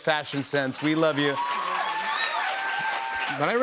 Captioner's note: cheers and applause